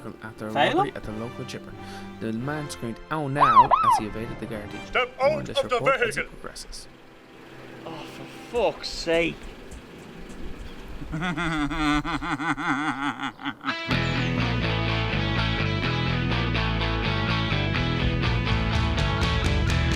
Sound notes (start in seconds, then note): 3.4 Garda car siren; 10.9 Felim laughs; 13.7 theme music